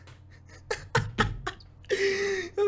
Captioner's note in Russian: Смех